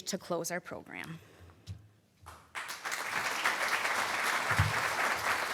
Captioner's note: applause